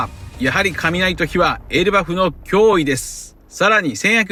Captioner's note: lightning and fire